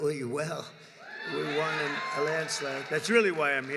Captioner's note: applause